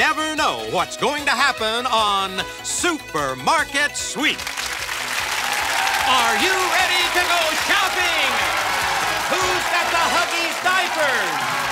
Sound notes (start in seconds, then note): 4.4 cheers and applause